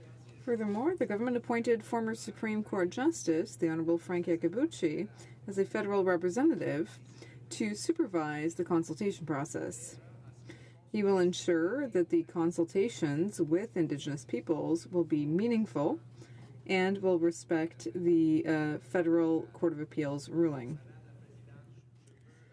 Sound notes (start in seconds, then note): 4.4 speaking French